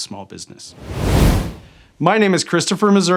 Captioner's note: air whooshing